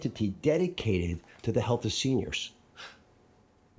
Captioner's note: gasps